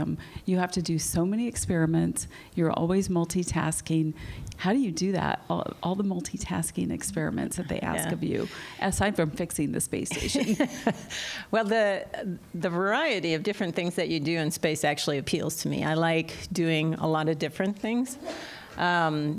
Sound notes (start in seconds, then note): 10.1 laughter